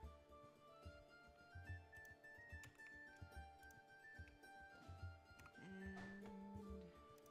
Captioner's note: mouse and keyboard clicking